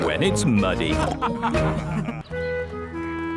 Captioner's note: all laughing